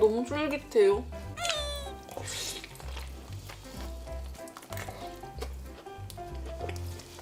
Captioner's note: about to cry